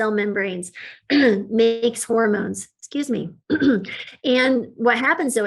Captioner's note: clears throat